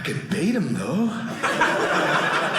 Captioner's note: audience laughing